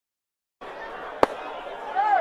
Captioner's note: group chattering